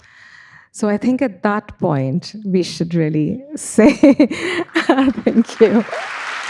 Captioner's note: laughs; audience applauding